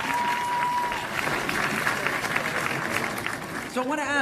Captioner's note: cheers and applause